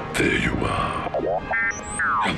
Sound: droid arrives

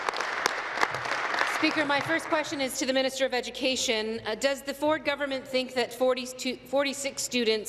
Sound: applause

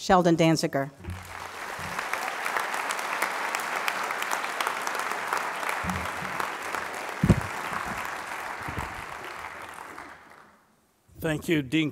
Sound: applause

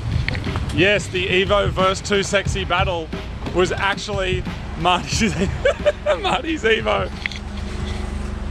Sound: laughing

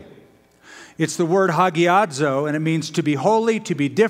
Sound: speaking greek

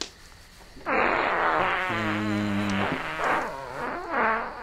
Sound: loud fart; humming; farting continues

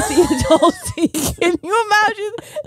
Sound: both laughing

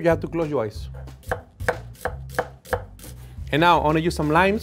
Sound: knife hitting board

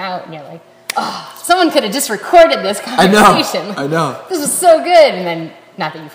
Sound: snap

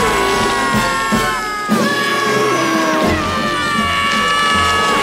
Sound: screaming

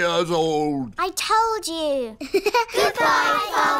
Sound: laughs

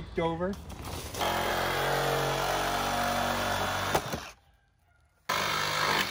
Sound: handsaw buzzing

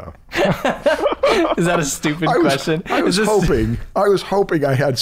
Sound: laughter

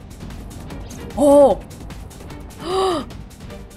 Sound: gasps

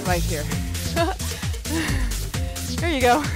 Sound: giggles

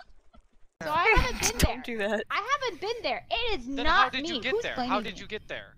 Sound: multiple people talking

